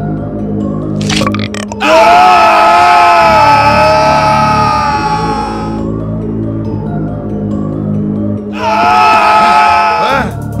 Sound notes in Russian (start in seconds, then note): 1.0 отрыжка